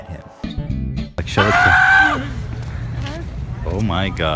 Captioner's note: Autistic Screeching